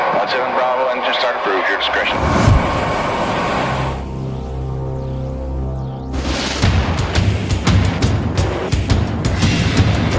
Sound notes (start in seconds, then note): 2.2 intense industrial music; 3.5 engines whirring